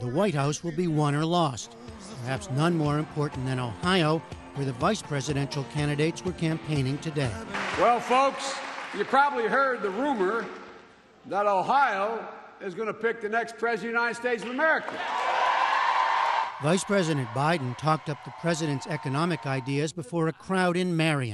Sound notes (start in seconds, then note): 14.7 cheering and applause